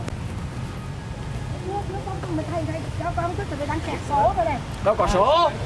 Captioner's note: speaking in foreign language